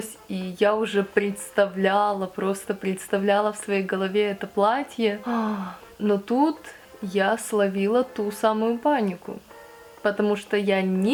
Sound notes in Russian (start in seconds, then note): 5.2 печальный вздох